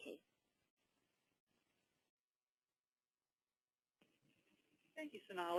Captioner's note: long pause